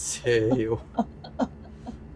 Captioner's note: laughs